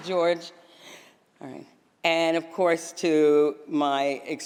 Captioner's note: applause